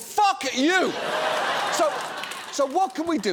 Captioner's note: audience laughs